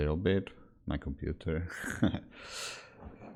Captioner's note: laughs